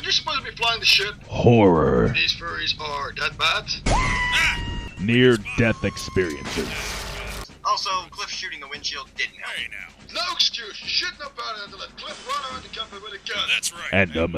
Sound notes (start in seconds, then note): 3.9 Ewok Shreaking; 6.4 crashing sounds